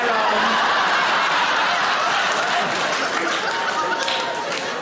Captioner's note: audience laughing